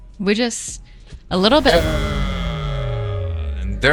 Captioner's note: klaxon Horn